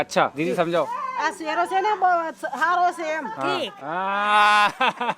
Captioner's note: speaking local language